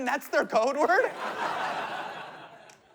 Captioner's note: laughter